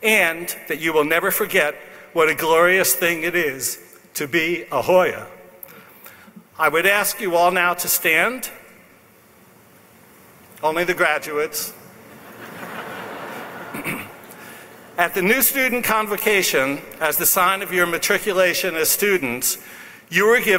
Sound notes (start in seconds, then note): 12.0 laughs